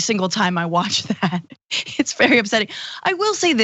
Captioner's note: laugh